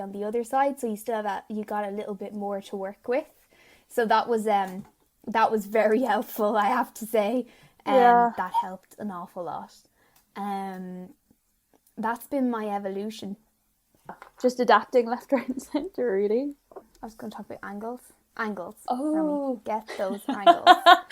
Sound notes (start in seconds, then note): 15.9 laughing